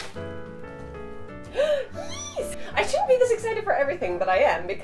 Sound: squeals like a squirrel

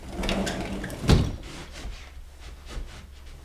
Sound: door closes

